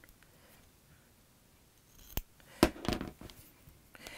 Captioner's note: scissor Sounds